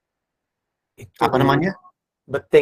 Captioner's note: non-english speech